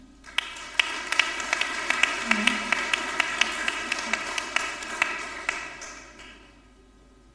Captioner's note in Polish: oklaski